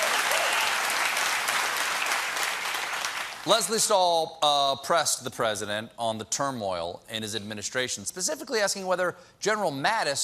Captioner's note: cheers and applause